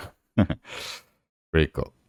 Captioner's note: chuckles